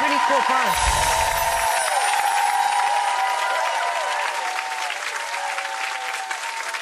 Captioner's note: audience applause drowns out other sounds